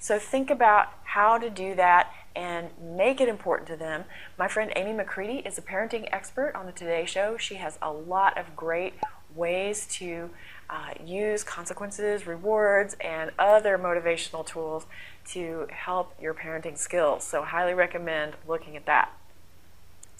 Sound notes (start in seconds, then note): 9.0 pop